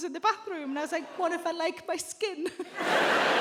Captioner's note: chuckles